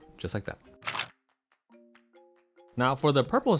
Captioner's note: camera clicks